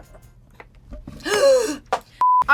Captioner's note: gasping